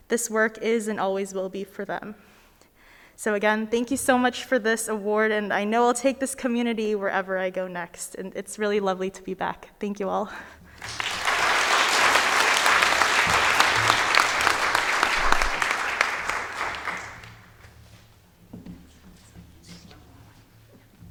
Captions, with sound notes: This work is and always will be for them. So again, thank you so much for this award, and I know I'll take this community wherever I go next. And it's real lovely to be back. Thank you all. (audience applauding)